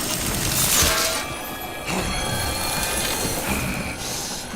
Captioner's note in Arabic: ارتطام الأسلحة; شخير داريوس